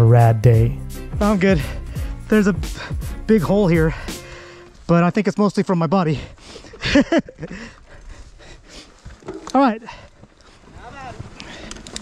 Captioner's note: laugher